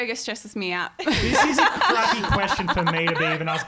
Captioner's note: all laughing